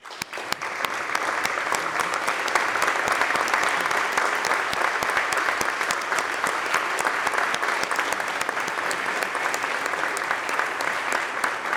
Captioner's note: applause